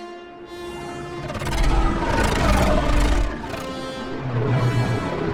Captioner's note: spacecrafts whirring